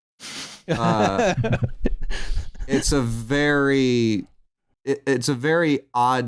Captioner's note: laughter